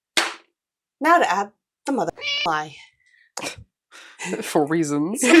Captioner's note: meow